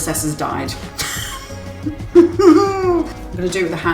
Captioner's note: anguished laugh